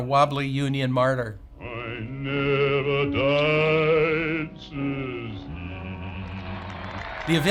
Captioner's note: people cheering